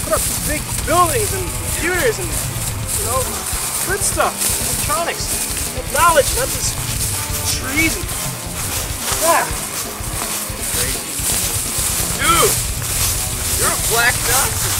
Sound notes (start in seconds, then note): 11.5 leaves rustling